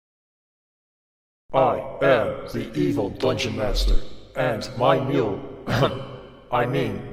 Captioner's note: hmmp